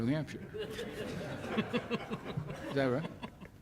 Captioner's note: laughs